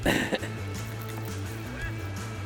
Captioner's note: chuckles